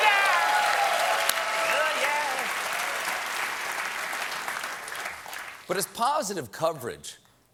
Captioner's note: applause